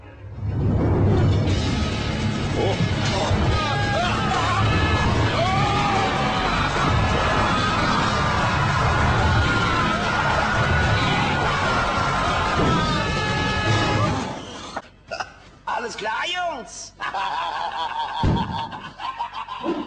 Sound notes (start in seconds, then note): 2.2 panics; 11.3 bash sounds; 16.9 laughs